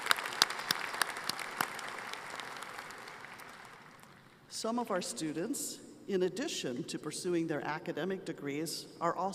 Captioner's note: applause